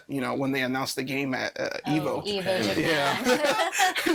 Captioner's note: all laughing